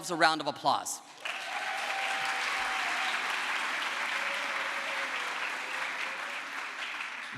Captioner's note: crowd applause